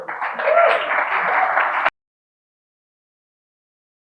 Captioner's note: audience applauding